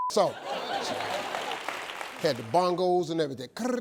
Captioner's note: audience laughs